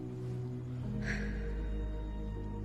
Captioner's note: exhaling sharply